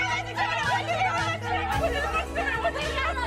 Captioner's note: giddily